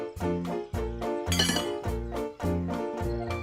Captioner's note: clanks